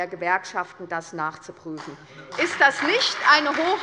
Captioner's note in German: Beifall bei der SPD und der LINKEN